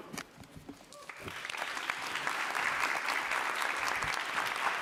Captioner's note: audience applauding